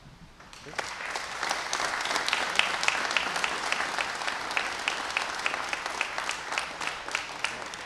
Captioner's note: applause